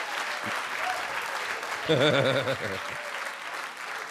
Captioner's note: Charlie laughing